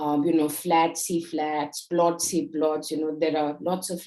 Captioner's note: speaking in Hindi